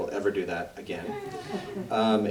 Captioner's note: audience laughs